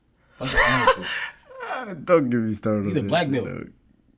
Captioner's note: laughing